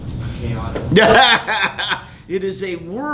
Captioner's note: laughing